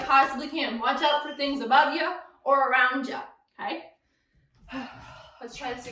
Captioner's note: sighs